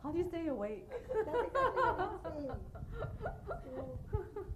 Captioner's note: laughing